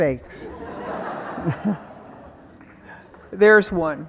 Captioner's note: audience laughing